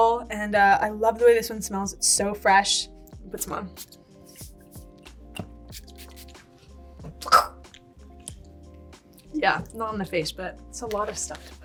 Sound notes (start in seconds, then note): 7.2 speaker gags